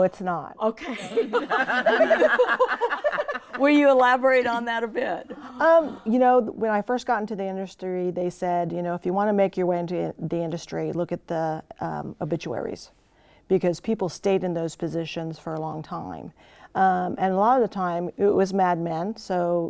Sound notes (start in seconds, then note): 0.8 laughter